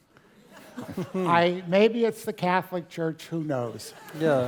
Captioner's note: laugh; laugh